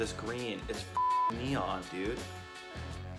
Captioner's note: beep